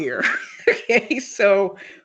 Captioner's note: chuckles